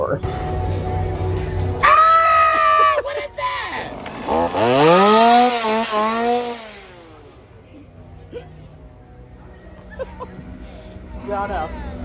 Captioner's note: laughter as chainsaw starts up